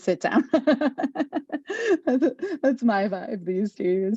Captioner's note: laughing